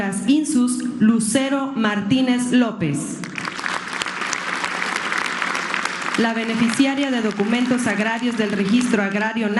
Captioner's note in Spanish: aplausos